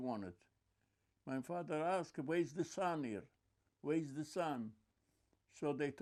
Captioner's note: non-english